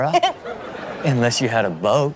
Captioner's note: Karrueche laughs